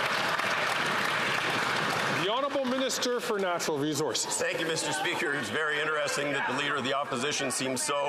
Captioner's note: some Applause